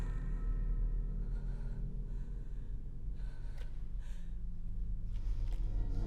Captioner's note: Joia breathes heavily